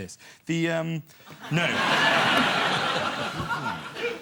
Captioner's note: audience laughter